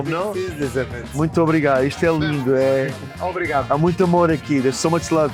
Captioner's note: speak Portuguese